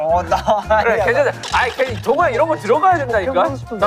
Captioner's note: arguing